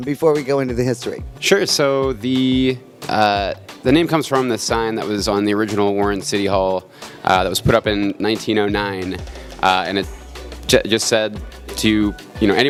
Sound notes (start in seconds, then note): none